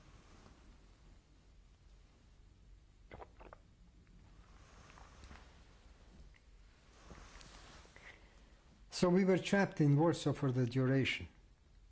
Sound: drinks

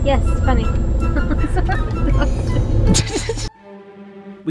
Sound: laughing

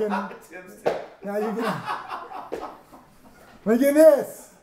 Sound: laughing

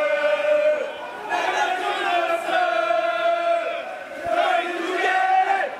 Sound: Supporters of Pohang keep chanting

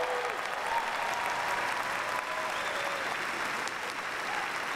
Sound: cheers and applause

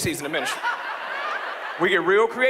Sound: audience laughs

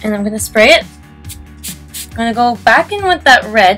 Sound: spray sounds X3

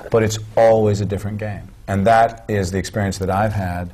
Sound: none

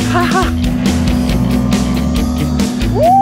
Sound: jet ski engine revving

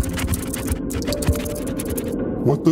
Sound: scorpions scurry

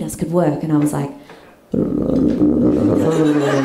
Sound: stomach gargles

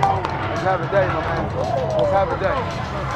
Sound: clapping

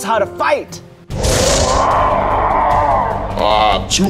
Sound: monster Roar

